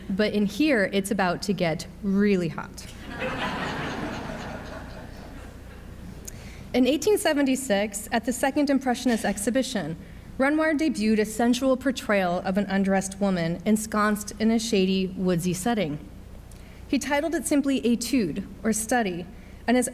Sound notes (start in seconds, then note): 3.0 audience laughs